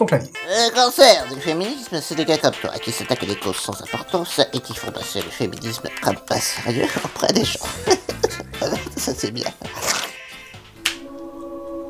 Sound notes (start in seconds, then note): 9.8 chuckles